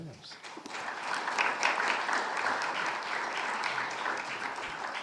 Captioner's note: audience applauding